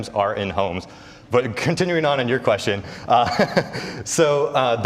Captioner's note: laughs